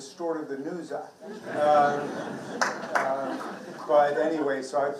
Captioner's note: participants laughing